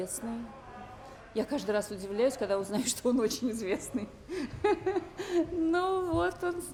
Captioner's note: laughs